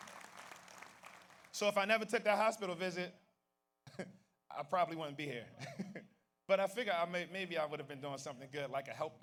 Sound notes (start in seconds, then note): 4.2 laughs; 6.3 laughs